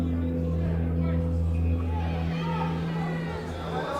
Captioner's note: tense music; crowd yelling